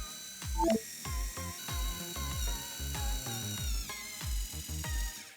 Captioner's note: drill whirring